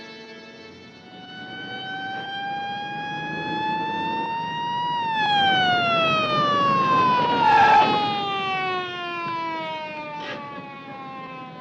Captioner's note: police sirens